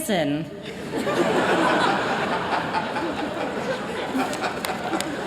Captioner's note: laughter